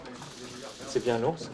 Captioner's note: speaking french